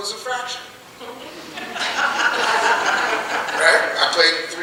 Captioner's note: audience laughing